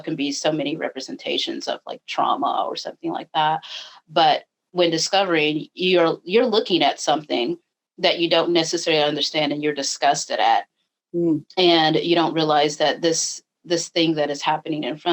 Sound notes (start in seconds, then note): none